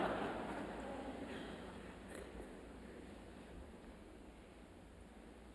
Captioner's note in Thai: เสียงหัวเราะ